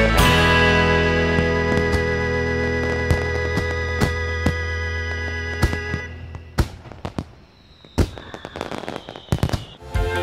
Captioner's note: fireworks whistle, crackle and explode